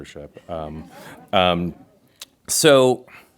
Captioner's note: crowd laughs